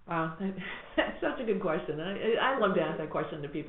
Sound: laughs

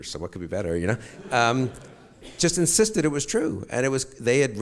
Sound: audience chuckles

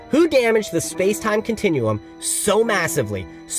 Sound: none

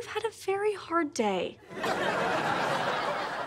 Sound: audience laughing

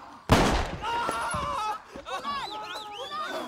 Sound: gun firing

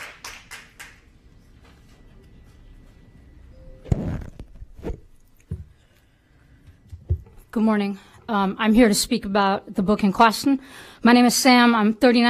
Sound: applause

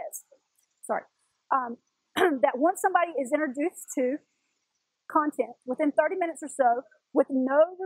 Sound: cough

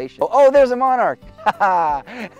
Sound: laughs

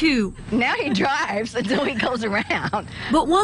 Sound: laughs

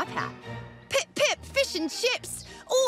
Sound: in British accent

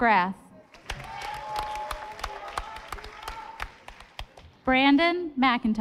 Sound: audience applauding

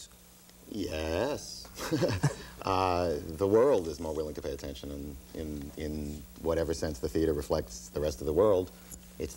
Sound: laughs

